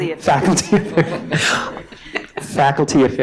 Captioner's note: chuckling